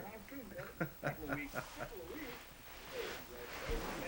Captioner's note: laughs